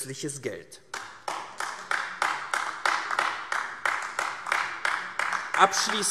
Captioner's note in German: Beifall AfD